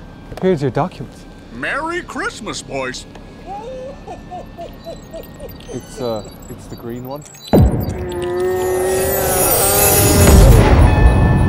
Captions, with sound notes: Here's your documents. Merry Christmas, boys. [very cheerful laughter] It's uh,... It's the green one.